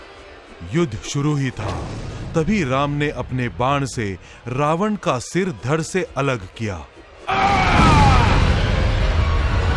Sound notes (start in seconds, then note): 7.3 groans